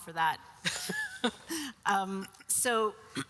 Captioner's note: all laughs